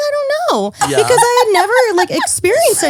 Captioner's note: laughing